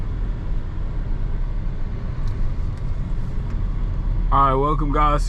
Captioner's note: car engine